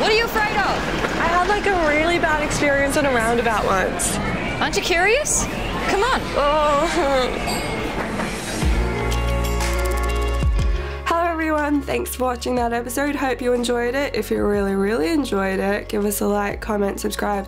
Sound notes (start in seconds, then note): 6.9 groans; 8.9 uplifting music